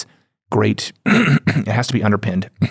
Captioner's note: clears throat